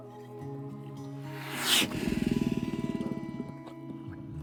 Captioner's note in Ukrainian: ведмідь гарчить